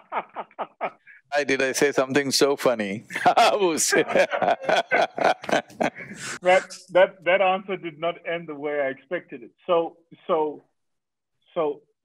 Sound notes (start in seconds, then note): 0.0 Vusi laughs; 3.2 laughs